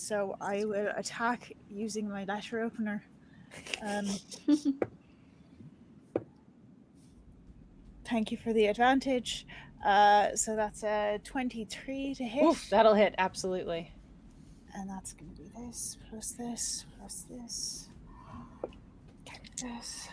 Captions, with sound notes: - So I will attack using my letter opener. (group snickers) (dice thumping) Thank you for the advantage. So that's a 23 to hit. - Woof, that'll hit. Absolutely. - And that's gonna be this, plus this, plus this, this,